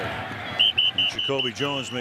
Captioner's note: whistling